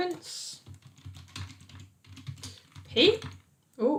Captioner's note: keyboard clicking